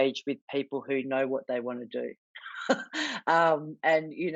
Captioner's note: chuckles